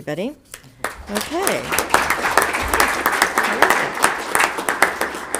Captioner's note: audience clapping